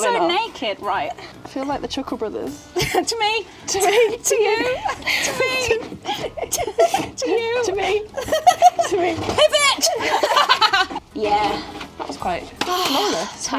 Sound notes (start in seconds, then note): 6.0 chuckles; 9.2 giggles; 10.9 laughing loudly